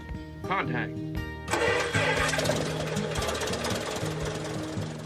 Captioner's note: plane whirs